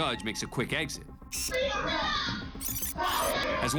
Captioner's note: yelling